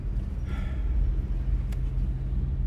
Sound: sighing

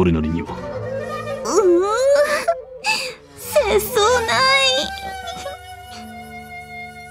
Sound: sob

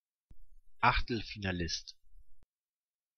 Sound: fast Pronunciation

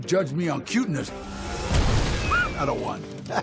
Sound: explosion; laughs

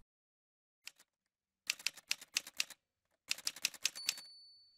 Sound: typewriter sounds

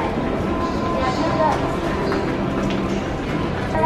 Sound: people chatting

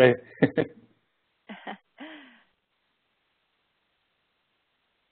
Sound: laughs

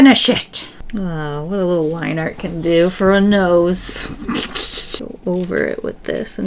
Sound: laughs

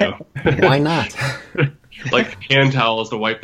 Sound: laughter

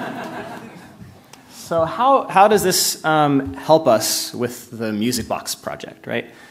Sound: laughter

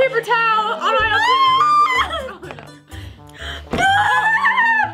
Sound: screaming

